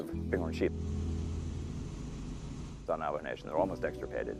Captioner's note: plane engine running